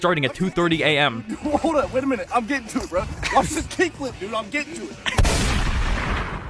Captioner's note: laugh